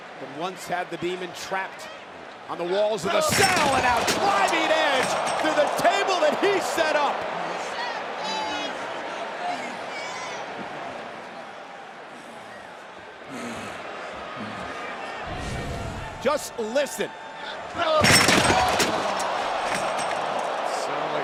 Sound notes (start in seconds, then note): 9.8 crowd jeering; 17.9 metal crashing